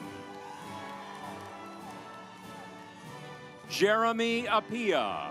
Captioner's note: audience applauds